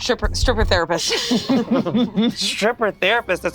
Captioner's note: group laughs